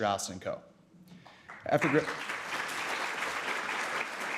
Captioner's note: applause